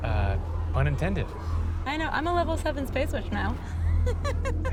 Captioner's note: laughs